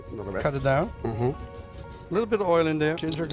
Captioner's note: slicing